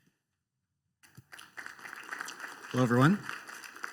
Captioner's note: applause